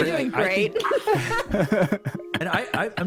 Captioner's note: more giggles